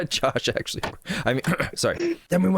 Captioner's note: clears throat